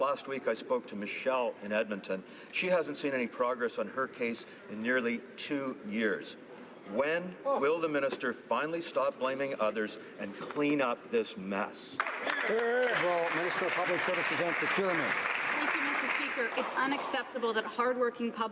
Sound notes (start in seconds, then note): 15.4 some Applause